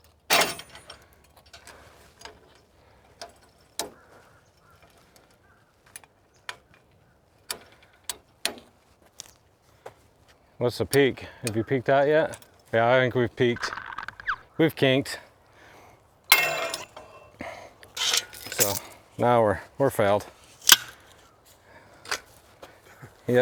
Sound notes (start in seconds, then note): 0.2 chain popping; 3.2 tightening rod ratcheting; 16.3 tool clanging; 20.6 pole snapping